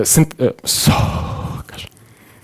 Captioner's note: exhales